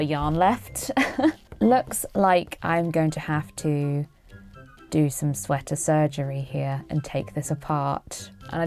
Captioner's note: laughs